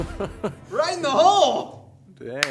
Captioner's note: laughing